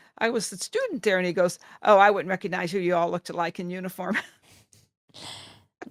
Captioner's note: laughter